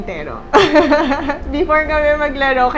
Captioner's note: laughs